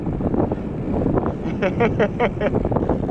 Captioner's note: laughing